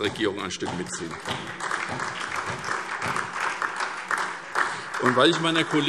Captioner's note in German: Beifall SPD und DIE LINKE